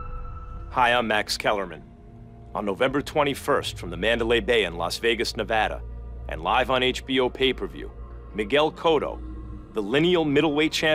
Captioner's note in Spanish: hablando en inglés